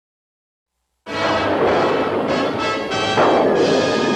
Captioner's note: thunderclap